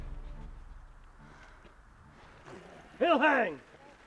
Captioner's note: Mabel sighs